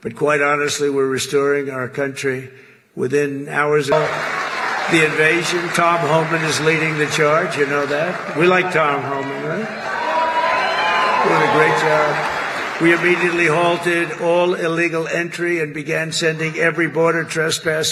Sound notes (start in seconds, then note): 11.0 applause